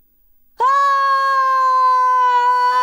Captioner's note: screaming